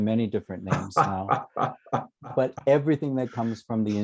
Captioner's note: laughter